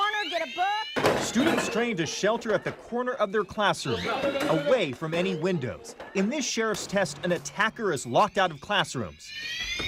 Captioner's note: alarms; screams